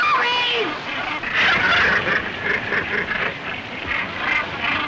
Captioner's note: squawking